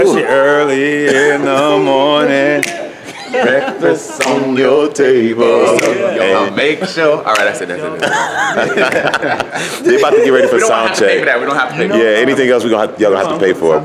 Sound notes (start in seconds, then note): 7.9 laugh